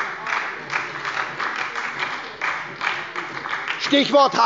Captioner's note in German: Beifall bei der SPD